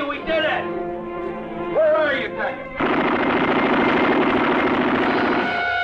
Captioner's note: guns blasting; intense orchestral music